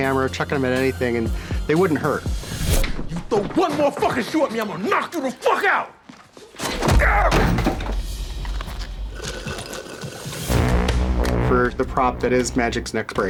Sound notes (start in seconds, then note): 6.6 pained grunt; 8.6 slurping